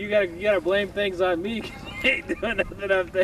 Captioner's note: laughter